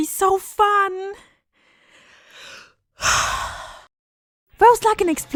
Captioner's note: loud breathing in face of certain doom